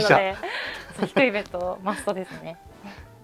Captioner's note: laughs